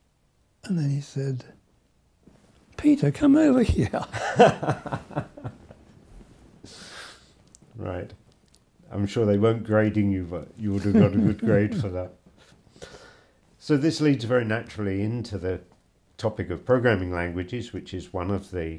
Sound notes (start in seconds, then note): 7.3 laughs